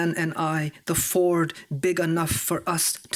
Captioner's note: none